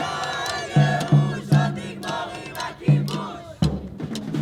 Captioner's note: speaking foreign language; percussive music